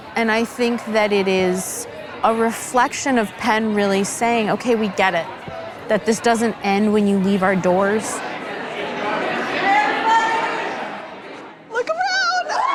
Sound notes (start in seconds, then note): 8.9 people chatting